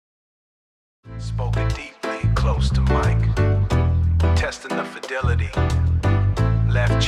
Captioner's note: spoken deeply, close to mic